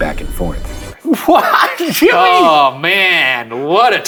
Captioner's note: laughing